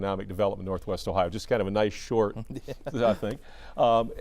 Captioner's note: laughs